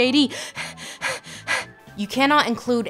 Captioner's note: Lindsay gasps for breath